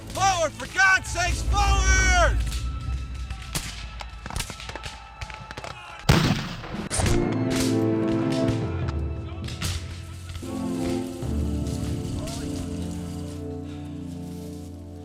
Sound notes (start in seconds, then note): 3.7 suspenseful music; 6.0 gunshots; 12.2 dramatic music